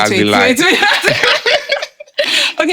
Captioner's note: laughing